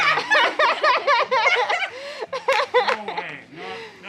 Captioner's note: family laughs